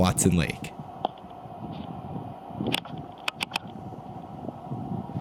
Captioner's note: video camera clicking